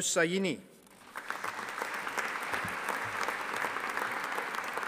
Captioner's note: audience applauding